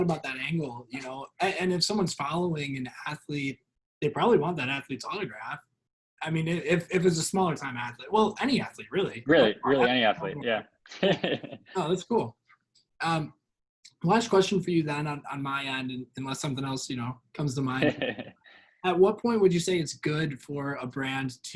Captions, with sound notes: about that angle, and if someone's following an athlete, they probably want that athletes autograph. I mean, if it was a smaller time athlete, well, any athlete really-- - Really any athlete yeah. (laughs) - That's cool, Last question for you then not on my end, unless something else comes to mind. At what point would you say it's good for a brand